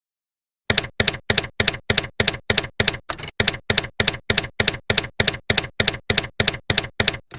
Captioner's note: typewriter keys clacking